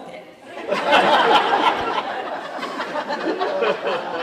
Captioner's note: laughter